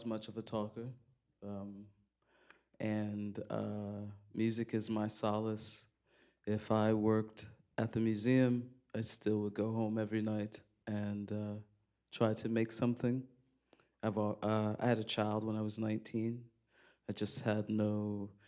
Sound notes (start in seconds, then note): none